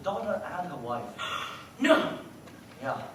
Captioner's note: gasp